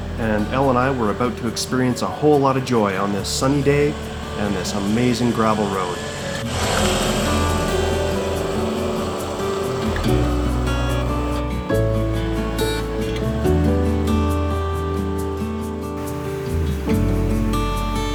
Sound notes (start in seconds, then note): 6.5 bike motor rumbling; 8.4 gentle music